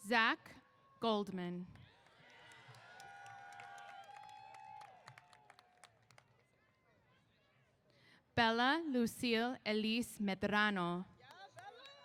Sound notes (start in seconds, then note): 1.9 applause & Cheers; 11.3 applause & Cheers